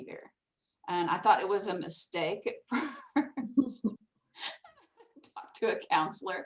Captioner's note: laughs